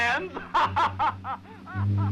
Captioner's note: laughing; suspenseful orchestral music